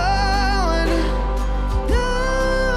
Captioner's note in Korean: 소근